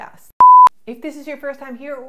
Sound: beep

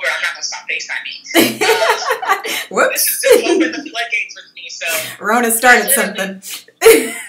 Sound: laughs

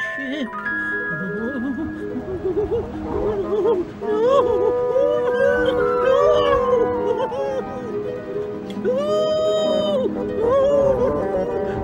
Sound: whimpering

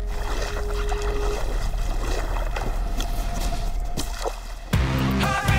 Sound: calm music; water slapping; heavy metal music

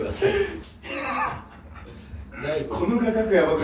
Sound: laughs

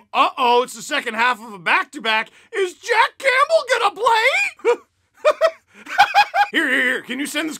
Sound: laughter

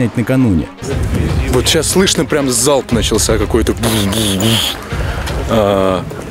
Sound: explosions

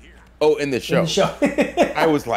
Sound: laugh

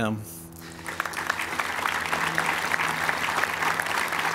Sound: applause

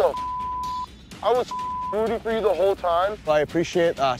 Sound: beep

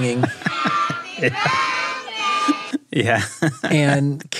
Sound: laughing

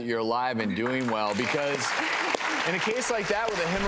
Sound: audience applauds

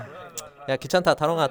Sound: sighing

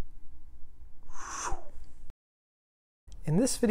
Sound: blowing

